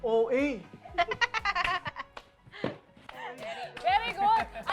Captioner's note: giggles